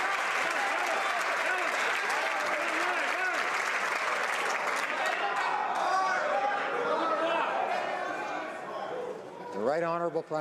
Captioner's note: some Applause